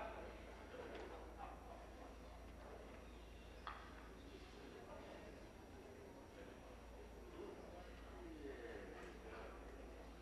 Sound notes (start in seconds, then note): none